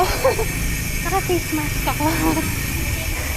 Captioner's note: laughs